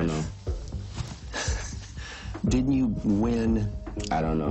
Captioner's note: laughs